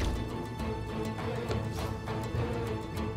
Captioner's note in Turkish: El vurma sesi; Müzik - Gerilim